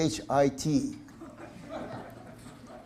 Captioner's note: audience laughter